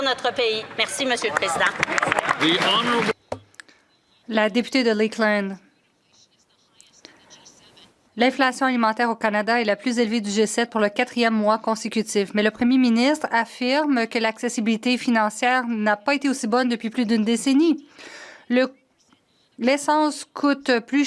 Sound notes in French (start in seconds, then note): 13.1 voix de l'interprète